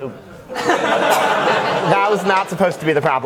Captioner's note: audience laughs